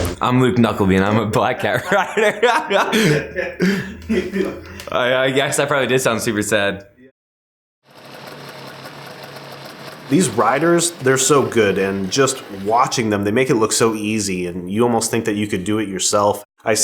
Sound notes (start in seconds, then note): 1.6 chuckles; 8.0 snow mobile engine sounds